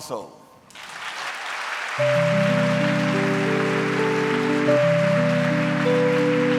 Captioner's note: audience cheering; gentle music